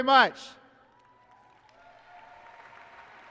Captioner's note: applause and cheering